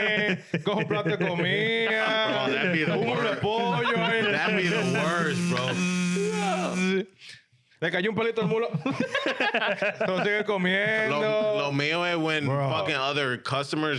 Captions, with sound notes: (Speaking In Foreign Language) That'd be the worst, bro. (Speaking In Foreign Language) No, me or when fucking other customers